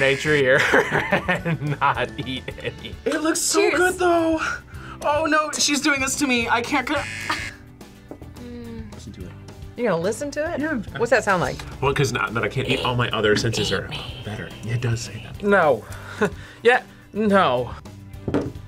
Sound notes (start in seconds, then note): 0.0 laughs; 6.9 buzzer; 14.0 whispers; 16.2 laughs